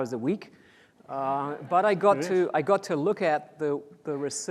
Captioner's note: audience laughs